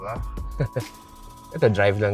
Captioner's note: chuckles